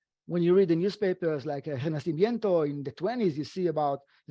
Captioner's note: speaking foreign language